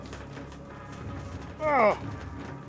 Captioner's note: he strains